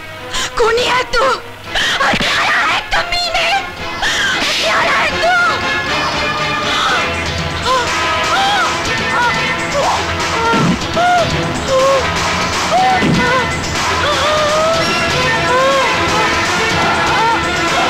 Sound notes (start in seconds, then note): 4.4 slaps